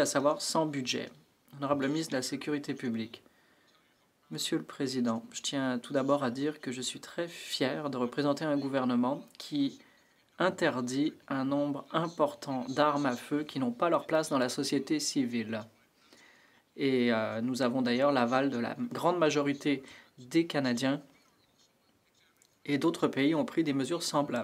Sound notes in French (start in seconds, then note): 4.9 voix de l'interprète